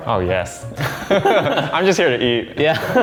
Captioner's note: laughing